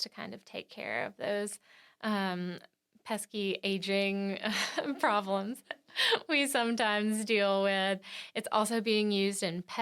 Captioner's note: laughs